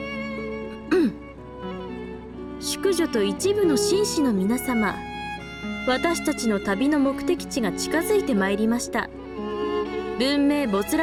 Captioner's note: ahem